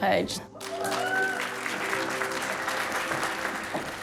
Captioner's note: cheering, applause